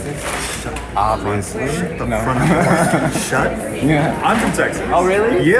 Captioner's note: chuckles